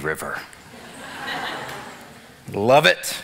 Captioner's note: audience laughs